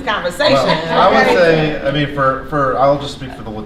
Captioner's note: laughter